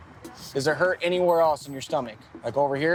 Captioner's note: none